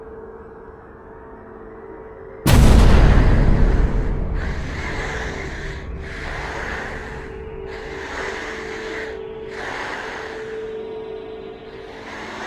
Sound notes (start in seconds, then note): 2.4 intense scary music; 2.8 deep muffled breathing